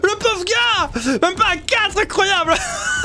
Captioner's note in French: rire